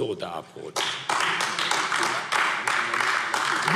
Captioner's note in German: Beifall AfD